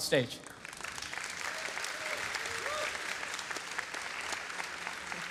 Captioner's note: applause